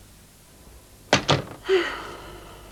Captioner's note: phone handset replaced